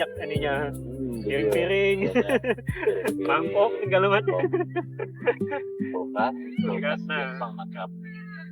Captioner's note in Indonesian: tertawa